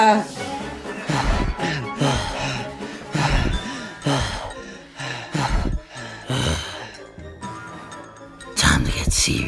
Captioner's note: both pant